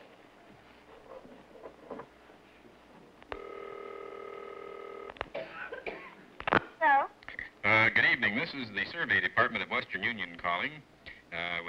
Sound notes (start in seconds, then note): 6.6 on phone